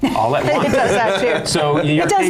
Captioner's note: laughter drowns out speaker